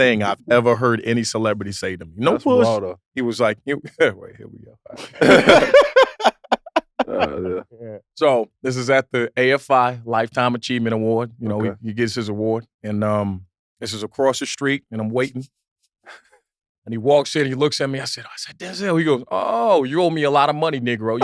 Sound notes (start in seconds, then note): 5.0 group laughs; 5.0 chuckles